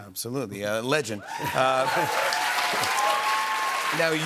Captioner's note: cheers and applause